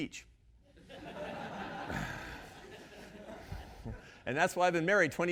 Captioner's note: audience laughing